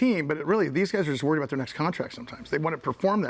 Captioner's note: none